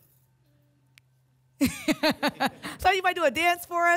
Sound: laughter

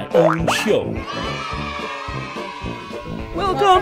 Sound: children cheering

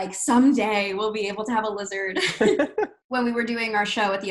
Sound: giggles

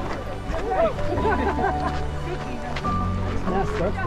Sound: people laughing

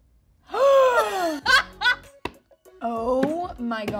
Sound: Rachel gasps; Ayo laughs

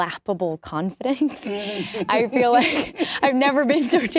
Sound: both laugh

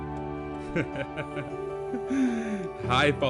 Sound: laugh

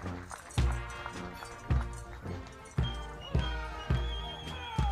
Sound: soldiers shouting commands

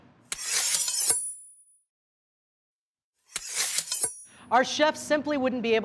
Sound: knives sharpening

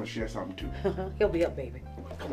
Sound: chuckles

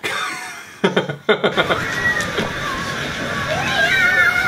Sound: laughter

